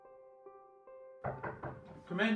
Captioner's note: piano music; knock on door